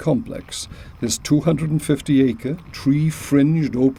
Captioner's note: gravel crunching